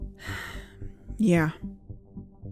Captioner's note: sigh